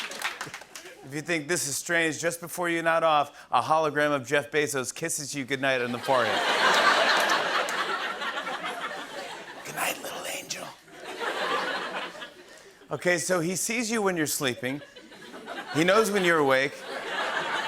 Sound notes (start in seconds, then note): 5.9 laughter; 8.2 whispering; 10.9 laughter; 12.6 normal voice